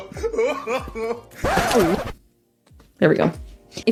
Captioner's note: record scratch; crying